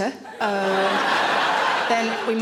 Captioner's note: audience laughing